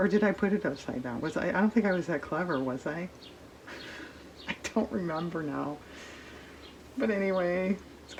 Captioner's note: laughs